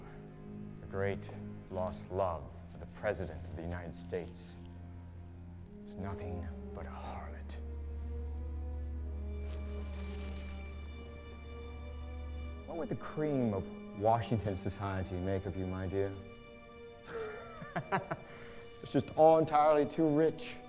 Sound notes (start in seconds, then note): 17.0 laughs